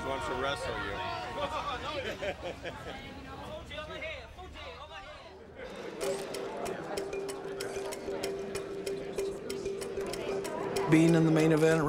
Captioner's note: laugh